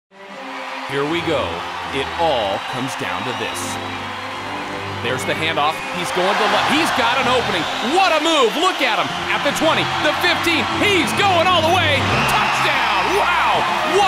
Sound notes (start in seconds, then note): 5.1 background cheering